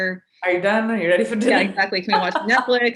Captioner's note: laughing